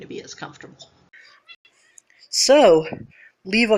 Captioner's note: Pepper meows